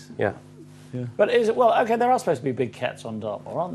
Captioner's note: stammers